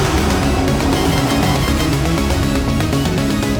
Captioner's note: frantic beeping